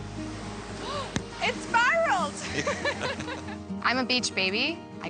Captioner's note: laughs